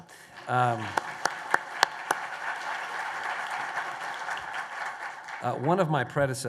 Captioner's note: applause